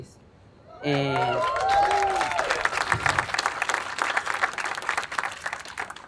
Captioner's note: attendees applauding and cheering